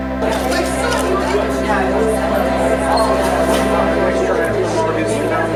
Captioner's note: people chattering